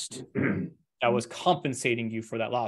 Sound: clears throat

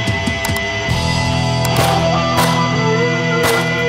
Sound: gunfire popping

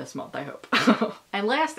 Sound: laughing

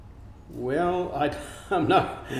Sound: laughs

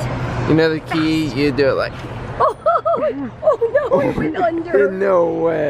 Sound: excited gasp

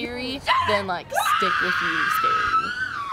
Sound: screaming

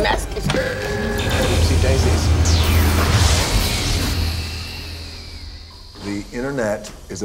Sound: short circuit noises; zapping

